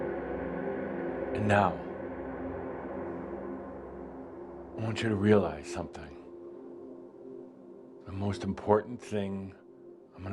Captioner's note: drone dies away to silence